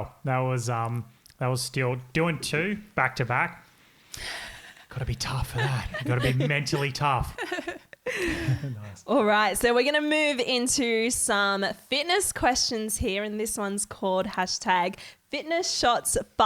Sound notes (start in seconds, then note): 8.3 all giggling